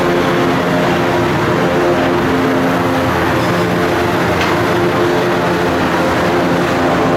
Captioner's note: various construction and machinery noises